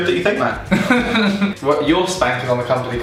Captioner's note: laughing